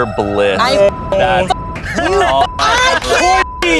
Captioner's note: beep